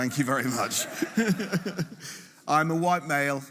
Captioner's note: laughing